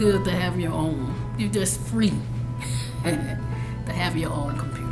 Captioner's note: laughs